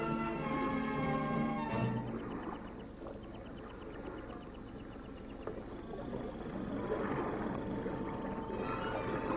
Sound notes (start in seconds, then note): 3.0 waves lapping